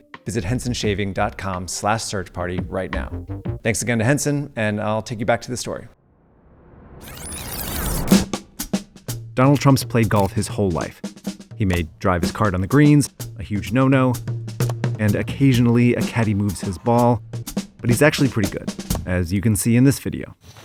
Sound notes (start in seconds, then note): 7.0 lively music; 7.0 tape squealing